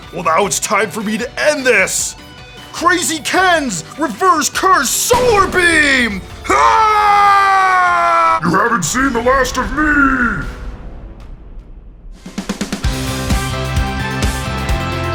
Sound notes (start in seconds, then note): 6.4 screams; 12.8 upbeat music